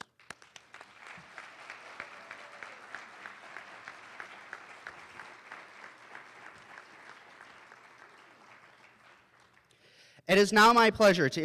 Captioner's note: applause